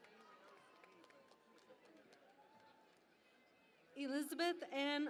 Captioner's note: cheering and Applause